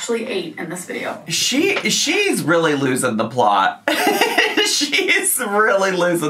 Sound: laughs

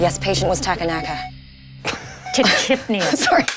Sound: laughter

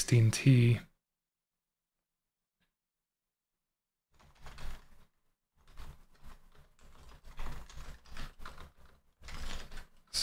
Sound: typing

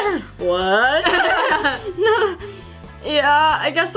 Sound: laughs

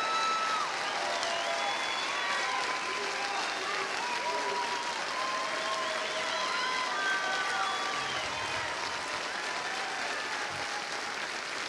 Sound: cheers and applause

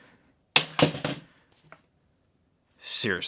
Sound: hard drive enclosure thudding

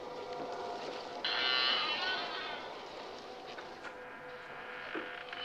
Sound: door creaking; dramatic music

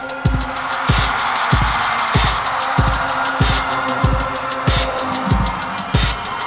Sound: crowd cheering; ominous techno music

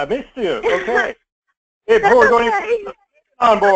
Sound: laugh

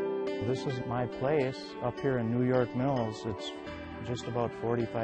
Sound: voiceover

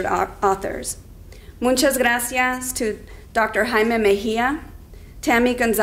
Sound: speaking in foreign language

